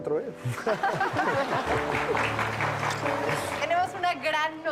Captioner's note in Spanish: Risas